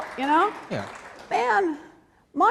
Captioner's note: applause